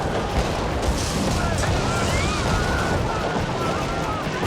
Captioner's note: indistinct shouting